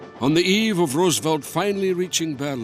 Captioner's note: Voz en off